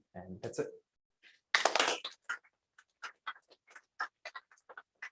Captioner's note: applause